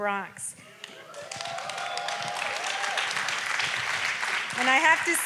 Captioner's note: audience applauds and cheers